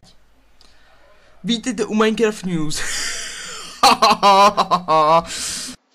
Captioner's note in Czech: nucený smích